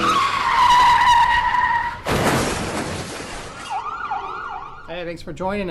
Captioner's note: car tires screeching; ambulance sirens; crash